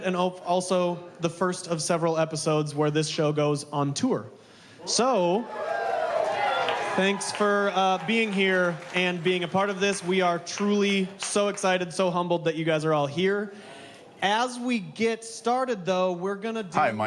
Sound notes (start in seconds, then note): 4.8 crowd cheering